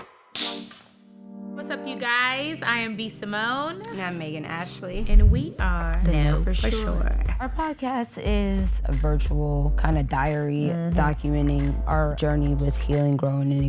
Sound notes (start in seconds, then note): 0.6 clapperboard clicking abruptly